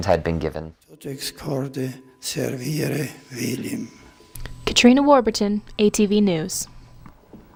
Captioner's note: Pope speaks in Latin